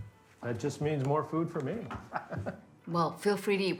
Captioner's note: laughing